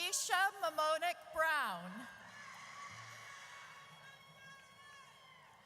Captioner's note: audience cheers